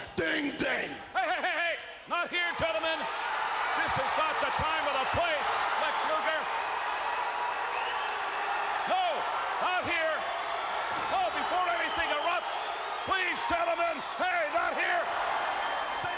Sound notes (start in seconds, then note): 6.7 crowd cheering